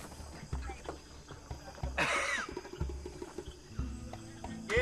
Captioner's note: laughs